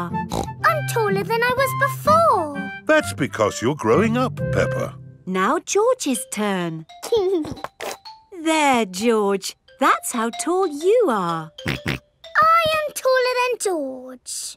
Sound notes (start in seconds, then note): 0.2 snorts; 7.2 giggling; 11.3 snorts